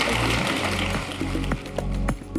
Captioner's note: applause